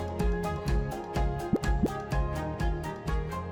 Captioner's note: graphic pops